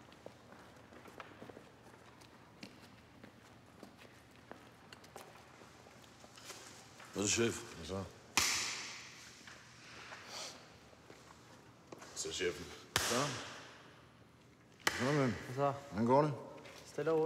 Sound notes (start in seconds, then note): none